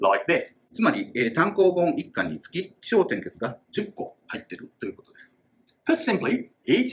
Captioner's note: speaking Japanese